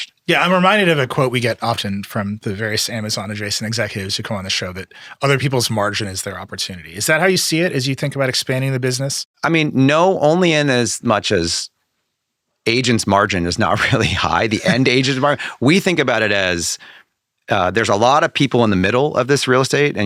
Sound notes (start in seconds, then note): 13.7 laughing